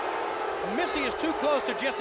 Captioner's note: crowd cheering